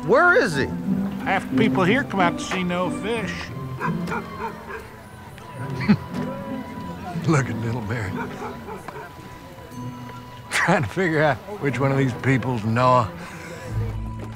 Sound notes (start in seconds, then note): 3.7 dog barking; 5.6 chuckles